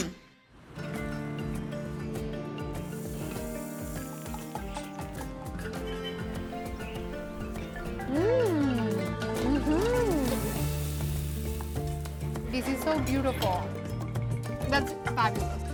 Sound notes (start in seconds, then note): 5.2 birds chirping